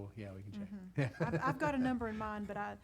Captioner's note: laughs